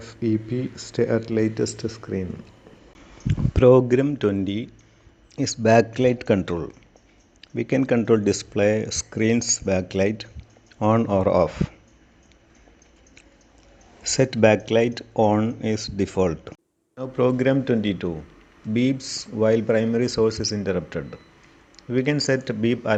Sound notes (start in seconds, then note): 17.0 beeps while primary source is interrupted